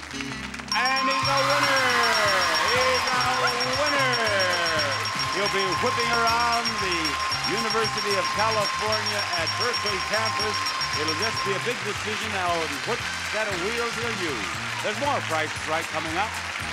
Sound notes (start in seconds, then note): 0.5 machines ringing